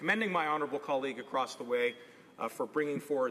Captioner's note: none